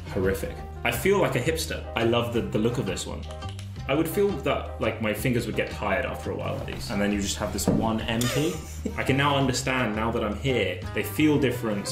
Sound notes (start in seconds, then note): 8.2 giggling